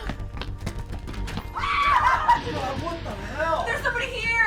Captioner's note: feet clopping